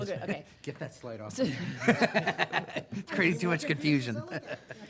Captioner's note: laughing